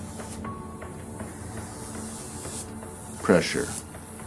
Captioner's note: machine whirring